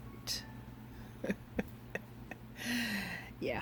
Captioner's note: chuckle